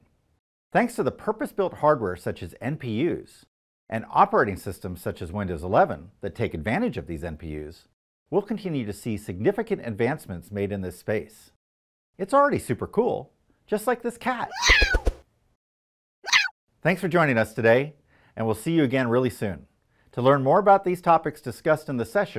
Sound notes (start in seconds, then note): 14.3 cat meowing